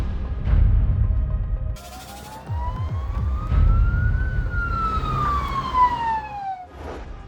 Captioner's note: sirens